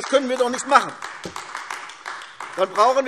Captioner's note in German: Beifall AfD